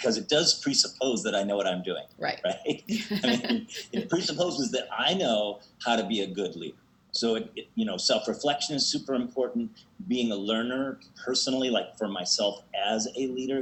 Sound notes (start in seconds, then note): 2.5 laughs